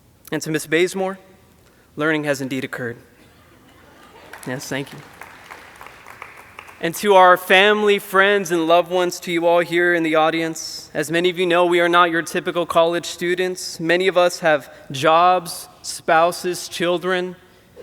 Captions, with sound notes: And to Ms. Bazemore, learning has indeed occurred. (audience applauding) Yes, thank you. And to our family, friends, and loved ones, to you all here in the audience. As many of you know, we are not your typical college students. Many of us have jobs, spouses, children,